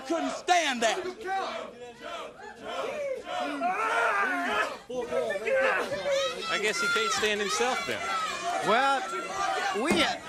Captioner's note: crowd cheering